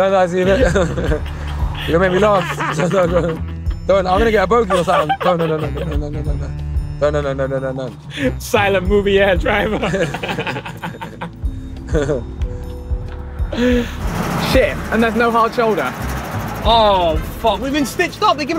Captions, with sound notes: - I you're gonna make me laugh Don. I'm gonna get a both you silent. No, no, no, no, no, no, no, no, no, no, no. - Silent movie ass - Driver. [ Both laughing ] . And there's no hard shoulder. Oh. We've been stitched up. We've given off no petrol.